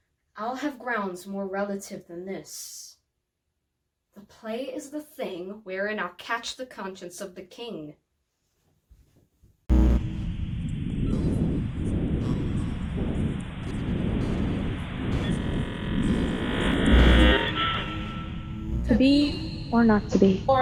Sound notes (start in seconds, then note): 9.7 buzzing